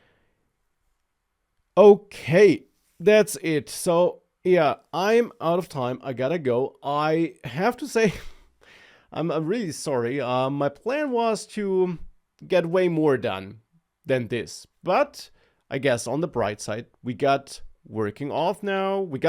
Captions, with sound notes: Okay, that's it. So yeah, I'm out of time. I gotta go. I have to say (laughs) , I'm, I'm really sorry. Um, my plan was to get way more done than this. But I guess on the bright side, we got working auth now, we